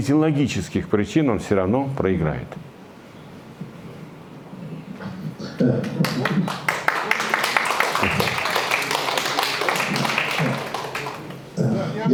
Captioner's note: applause